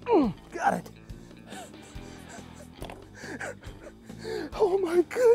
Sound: chuckles

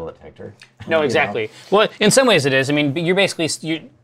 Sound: stammers

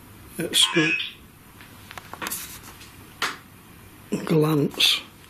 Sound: electronic buzzing

